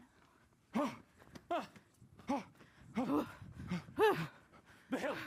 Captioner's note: panting